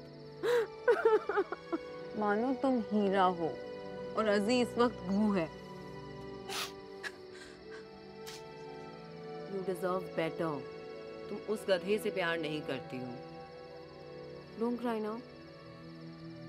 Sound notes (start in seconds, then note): 6.4 Sniffs